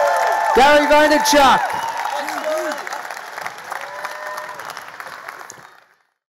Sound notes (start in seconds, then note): 2.2 audience applause